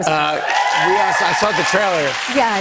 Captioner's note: cheers and applause